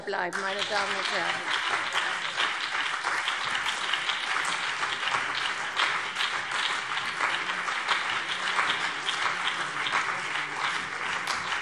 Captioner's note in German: Beifall CDU und BÜNDNIS 90/DIE GRÜNEN